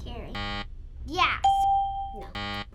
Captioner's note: buzzer